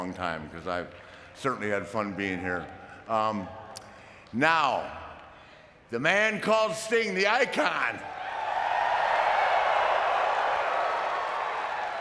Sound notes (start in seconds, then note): 8.0 audience cheering